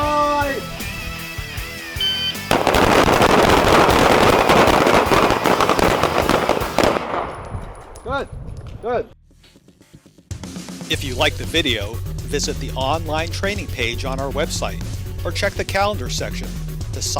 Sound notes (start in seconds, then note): 2.0 timer beeps; 2.4 guns firing